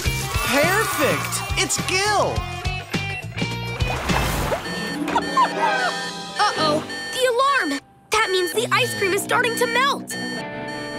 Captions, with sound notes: Purfect. It's Gil. [beeping, whimpering] Uh-oh. The alarm. That means the ice cream is starting to melt. [beeping]